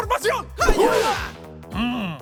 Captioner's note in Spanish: Sonidos de karate